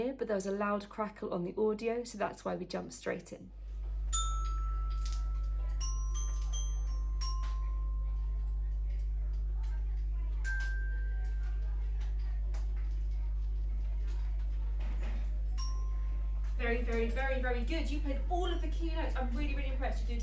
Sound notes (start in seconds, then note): 3.8 child playing